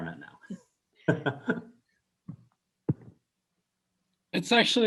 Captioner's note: laughs